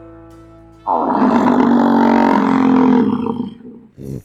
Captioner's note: bison roar